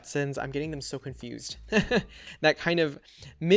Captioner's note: laughs